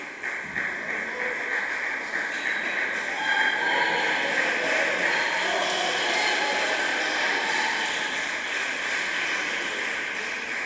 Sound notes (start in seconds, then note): 5.2 applause